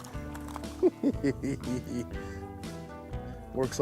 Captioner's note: laughs